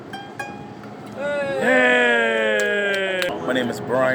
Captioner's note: cheers and claps